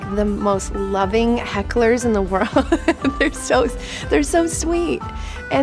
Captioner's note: laughing